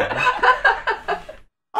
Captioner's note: laughter